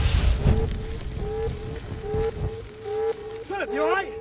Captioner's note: alarm blaring continues